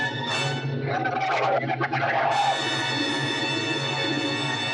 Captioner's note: Louise screaming under water